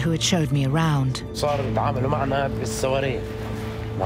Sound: speaking Arabic

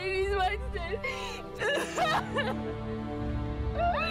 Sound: sobs

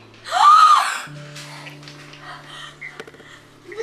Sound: gasping

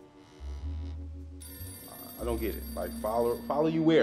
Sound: phone rings

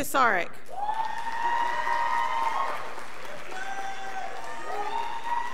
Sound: scholars applauding

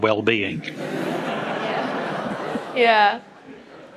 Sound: audience laughs

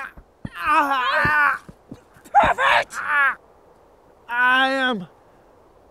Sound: groaning

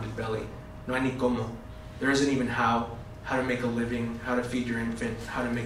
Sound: spanish

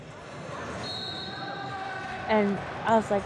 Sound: whistle blows

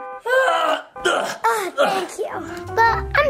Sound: grunts

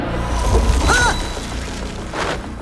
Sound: yells

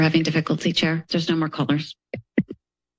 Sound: mic thuds

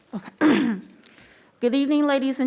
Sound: clears throat

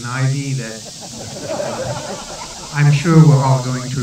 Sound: laughter

